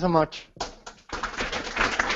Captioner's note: applause